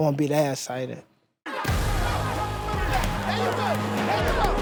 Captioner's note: indistinct shouting